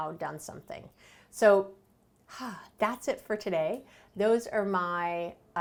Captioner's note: exhale